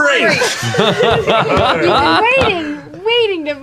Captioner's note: laughter